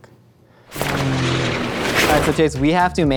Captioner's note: plane revving